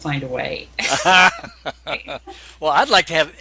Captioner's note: laughing